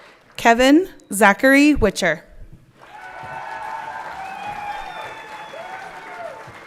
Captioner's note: everyone clapping